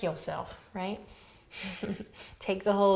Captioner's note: laughs